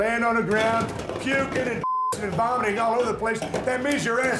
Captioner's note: beep